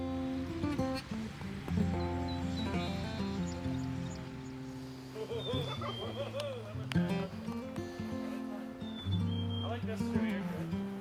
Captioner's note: birds chirping, children playing